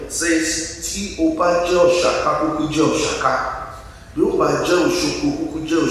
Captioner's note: speaks in foreign language